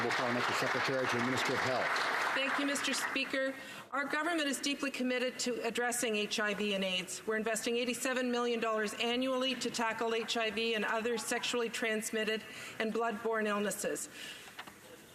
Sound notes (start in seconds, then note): 0.0 some Applause